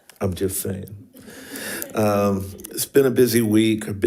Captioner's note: panelists laughing